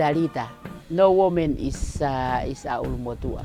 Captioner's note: speaks in Tongan